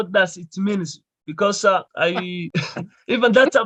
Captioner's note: chuckles